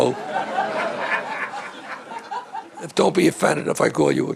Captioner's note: all laughing